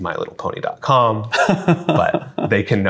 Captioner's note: laughs